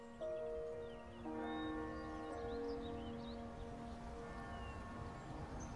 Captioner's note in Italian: campane